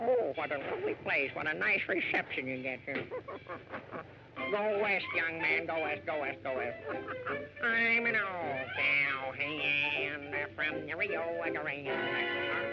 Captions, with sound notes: Oh, what a lovely place. What a nice reception you get here. Go west, young man. Go west, go west, go west. (chuckles) I'm an old cow. Hey, Anne, from...